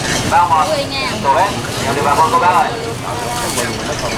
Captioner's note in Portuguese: mulher falando em vietnamita